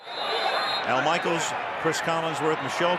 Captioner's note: whistle